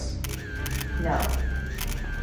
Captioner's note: camera shutter